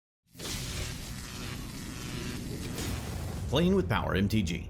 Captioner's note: electricity zapping